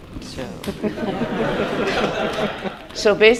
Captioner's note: laughter